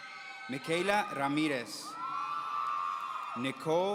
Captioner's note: audience cheering